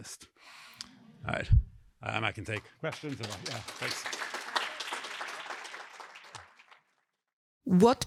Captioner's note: applause